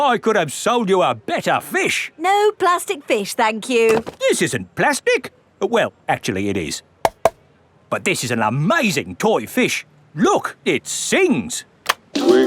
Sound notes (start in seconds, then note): 7.0 taps